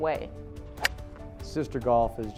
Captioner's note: golf club hitting ball